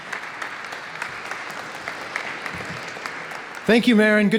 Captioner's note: applause